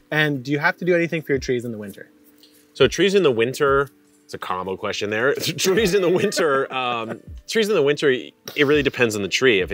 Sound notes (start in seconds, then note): 5.4 both laughing